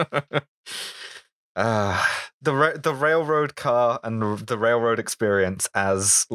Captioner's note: laughter